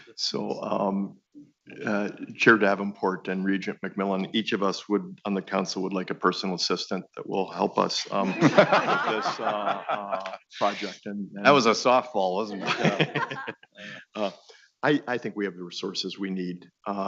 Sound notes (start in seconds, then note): 8.0 audience laughing